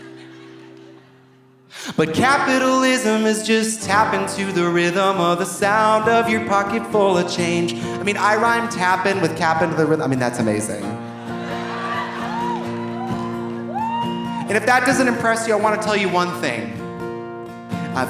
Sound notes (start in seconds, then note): 0.0 audience laughing softly; 11.2 audience laughing; 11.3 audience cheering